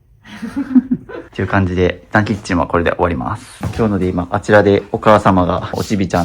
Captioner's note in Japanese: 笑い